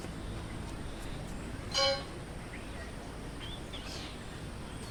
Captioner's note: birds chirping